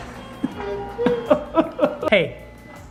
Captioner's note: laughs; mock cries